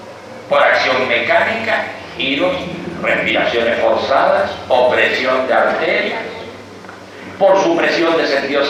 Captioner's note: spinning, forced breathing, pressure on arteries